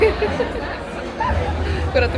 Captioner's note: giggles